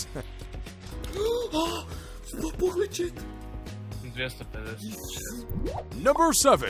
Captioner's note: gasp